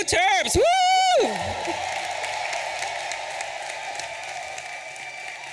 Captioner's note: audience applauding and cheering